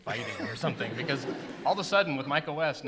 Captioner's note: laughter